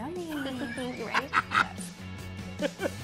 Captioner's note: laughing